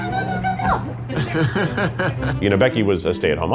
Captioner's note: laughing